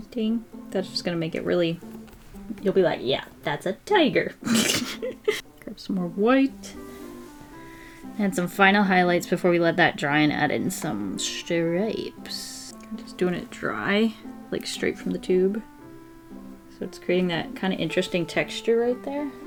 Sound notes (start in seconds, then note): 4.4 laughs